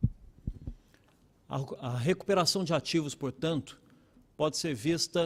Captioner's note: speaking Portugese